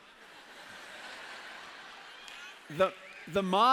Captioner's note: laughter